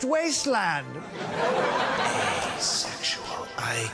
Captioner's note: audience laughing